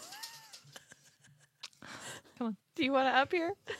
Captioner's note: laughs